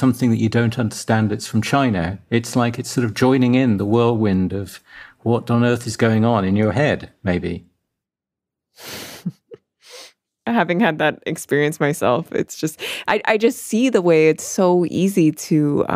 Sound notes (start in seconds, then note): 8.9 laughs